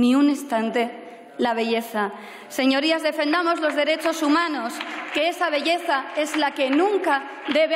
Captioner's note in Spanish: Aplausos